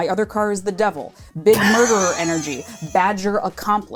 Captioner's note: wheezing